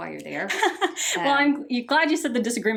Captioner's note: laughs